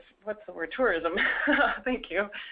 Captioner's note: laugh